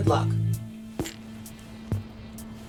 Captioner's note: clanging glass